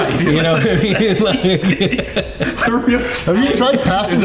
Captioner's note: everyone laughing